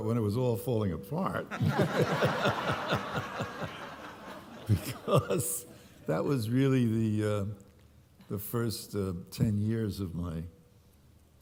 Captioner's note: laughter